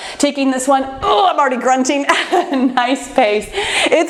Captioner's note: laughs